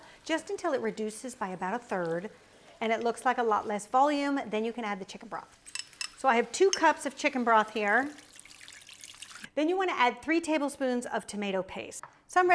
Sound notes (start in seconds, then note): 5.6 glass clinks; 7.8 broth burbling